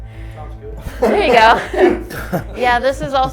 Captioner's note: all laughing